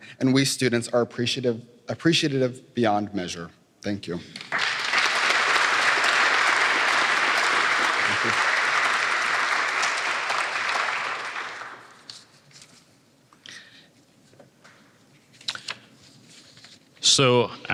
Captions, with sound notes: and we students are appreciative beyond measure. Thank you. [APPLAUSE]